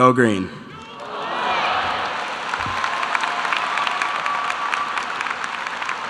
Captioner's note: audience cheering and applause